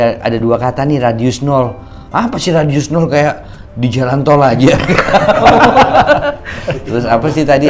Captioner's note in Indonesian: tertawa